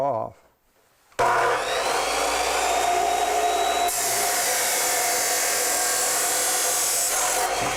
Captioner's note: metal grinding